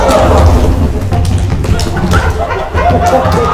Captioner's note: thudding; all laughing